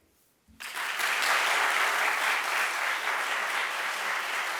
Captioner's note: audience applauds